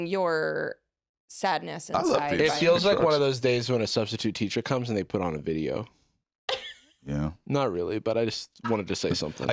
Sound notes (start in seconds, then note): 6.5 laughs